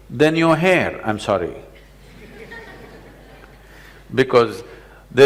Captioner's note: laughter